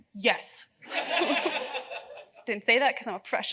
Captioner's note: audience laughs